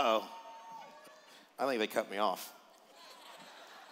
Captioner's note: laughter